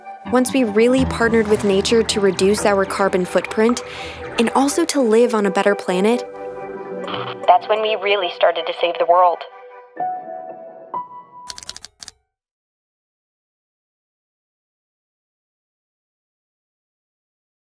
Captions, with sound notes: once we really partnered with nature to reduce our carbon footprint and also to live on a better planet [static] [Distorted] That's when we really started to save the world.